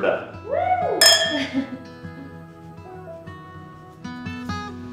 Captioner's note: wine glasses clink